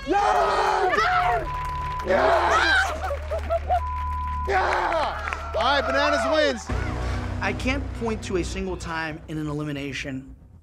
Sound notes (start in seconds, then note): 0.0 air horn blares; 0.0 yelling, cheering, and applause; 1.4 beeping